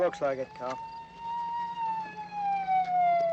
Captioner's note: siren wailing